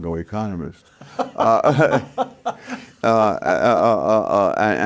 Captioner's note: laughing